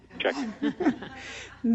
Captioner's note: laughter